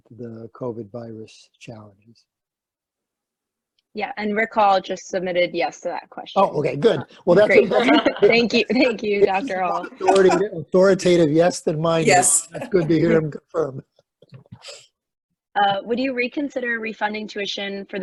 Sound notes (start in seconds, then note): 7.4 laughter